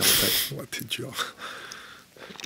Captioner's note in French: rire